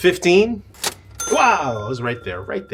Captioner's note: cash register dinging